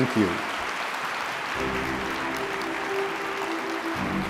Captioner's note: applause; lively orchestra music